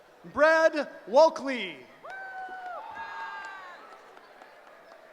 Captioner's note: cheering